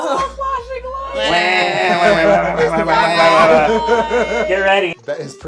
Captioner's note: Wambulance noises